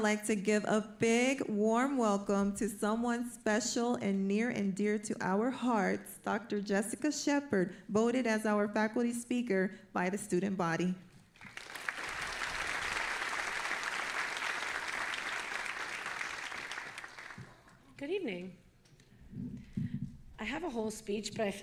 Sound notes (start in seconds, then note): 11.4 audience applauding